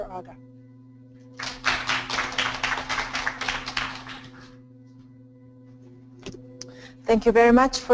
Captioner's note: applause